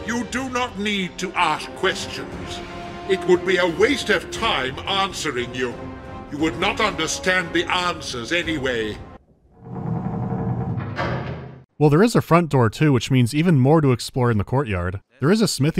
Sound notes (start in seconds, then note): 9.2 door closing